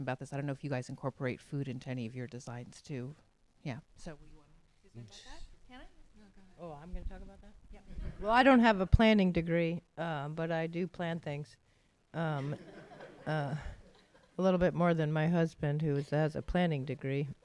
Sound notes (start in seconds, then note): 12.4 laughter